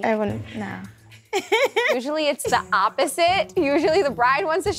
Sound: laughs

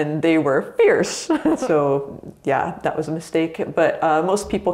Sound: laughs

